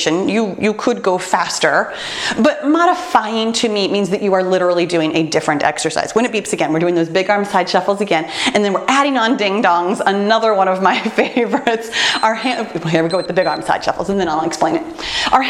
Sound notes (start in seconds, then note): 12.0 timer beeps